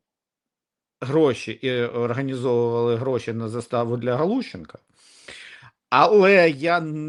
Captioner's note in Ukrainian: сопіння